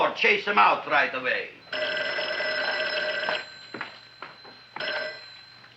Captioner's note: phone ringing